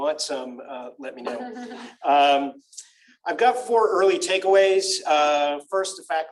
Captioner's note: laughter